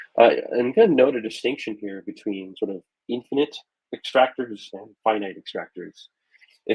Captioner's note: none